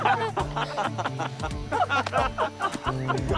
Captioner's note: laughter